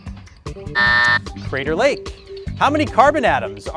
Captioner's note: buzzer beeps